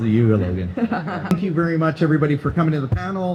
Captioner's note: laughs